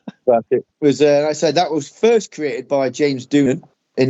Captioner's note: Klingon Language